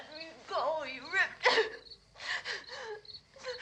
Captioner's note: sobs